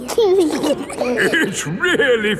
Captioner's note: giggling